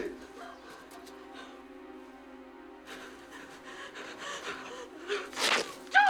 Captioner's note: panting